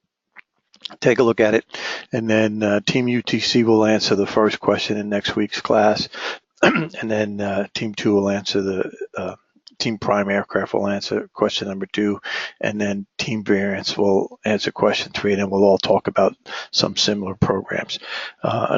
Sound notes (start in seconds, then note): 6.6 cough